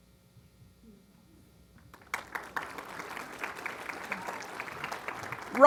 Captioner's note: applause